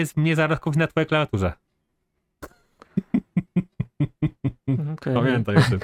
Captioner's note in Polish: śmiech